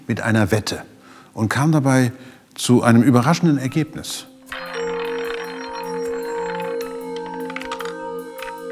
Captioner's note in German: Drehgeräusche des Roulettes